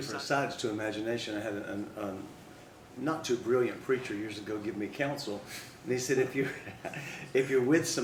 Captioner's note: laughs